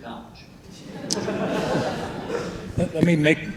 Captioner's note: audience laughing